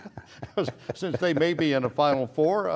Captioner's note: laughs